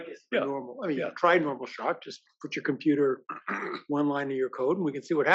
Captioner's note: cough